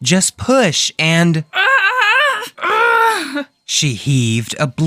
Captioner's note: Luna screams